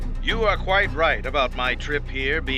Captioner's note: Voz en off